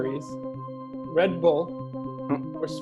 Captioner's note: grunt